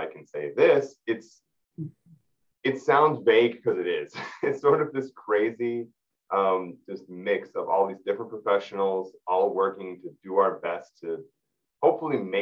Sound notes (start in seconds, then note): 4.0 laughing